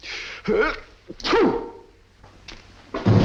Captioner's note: sneezes